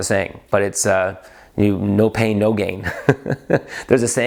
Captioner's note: laughs